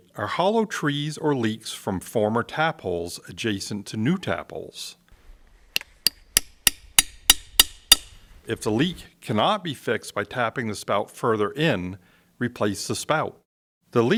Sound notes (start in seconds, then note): 6.0 hammer tapping